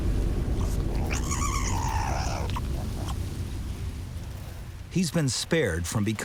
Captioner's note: mongoose squeaking